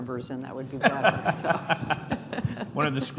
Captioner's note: laughing